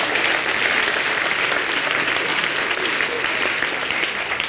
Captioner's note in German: Klatschen